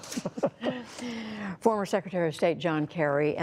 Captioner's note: laughter